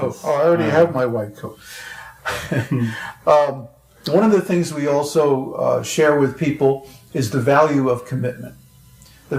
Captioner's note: laughs